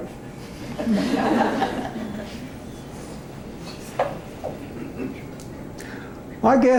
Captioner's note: laughter